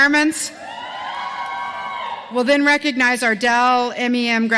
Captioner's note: cheering